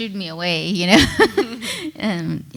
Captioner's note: laughs